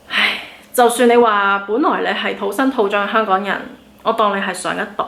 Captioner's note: sigh